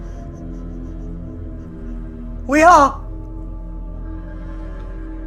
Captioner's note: laughing